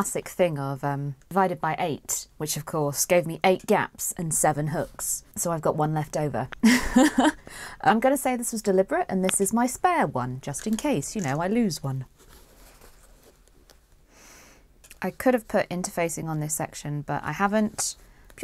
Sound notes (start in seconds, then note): 6.7 laughs